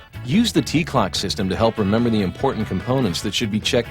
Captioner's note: voiceover